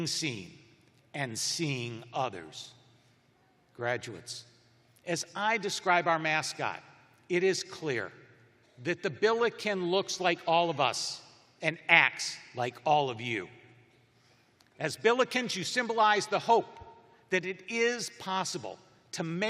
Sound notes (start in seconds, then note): none